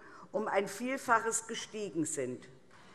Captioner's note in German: none